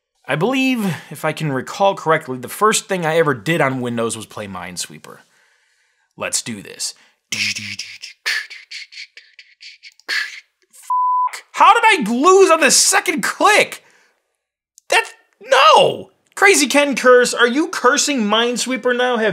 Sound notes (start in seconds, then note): 7.3 beatbox sounds; 10.8 beep